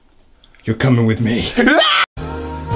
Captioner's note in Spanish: Gritos